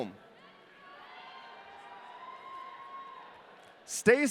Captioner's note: audience cheering